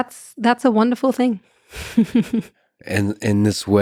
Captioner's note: laughs